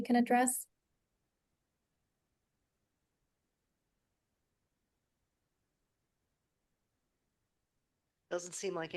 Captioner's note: silence